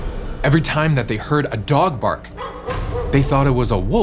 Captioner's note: dog barks